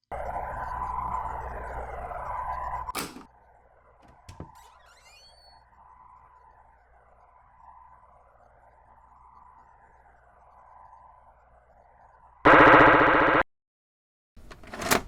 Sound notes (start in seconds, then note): 0.1 static hum; 2.9 tape deck shuts off; 4.0 door opens; 12.4 loud game sounds; 14.5 VCR being loaded